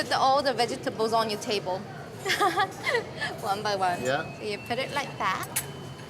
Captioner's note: giggles